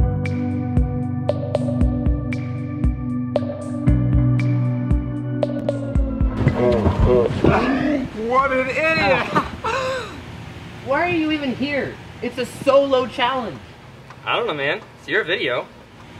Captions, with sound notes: (distorted clamoring) - What an idiot. (laughing) - Why are you even here? It's a solo challenge! - I don't know, man, it's your video.